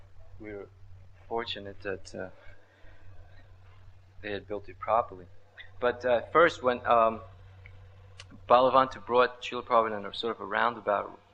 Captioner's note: laughs